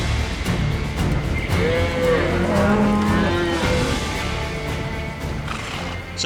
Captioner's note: mooing